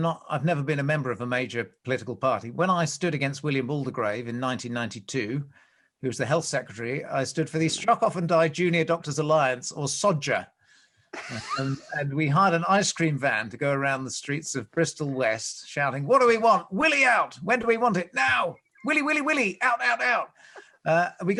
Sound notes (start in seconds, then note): 11.2 laughs